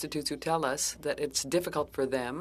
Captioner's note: speaking French